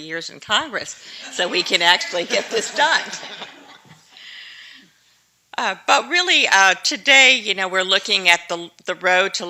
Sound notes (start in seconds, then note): 3.6 laughter